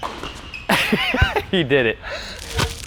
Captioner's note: laughs